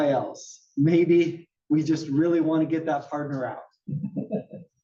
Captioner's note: laugh